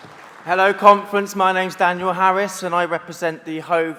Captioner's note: applause